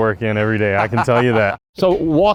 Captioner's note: laughing